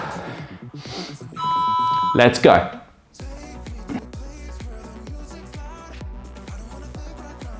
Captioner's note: snorts